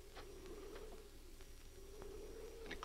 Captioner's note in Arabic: عواء الرياح المكتوم